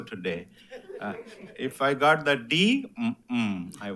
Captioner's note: attendees laughs